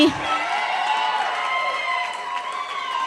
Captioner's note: cheering